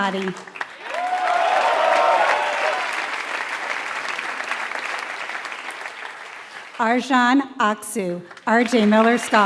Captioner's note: applause